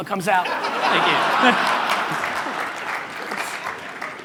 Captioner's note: audience laughter